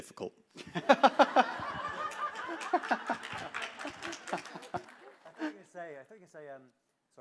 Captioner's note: laughter